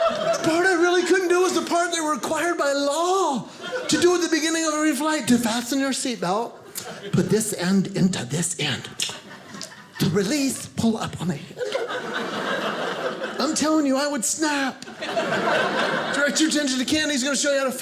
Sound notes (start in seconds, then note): 8.7 clicks tongue; 11.5 audience laughing